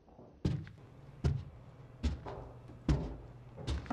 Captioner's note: footsteps getting closer